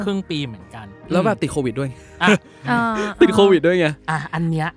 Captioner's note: laugh